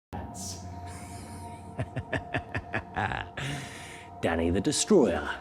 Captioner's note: Danny laughs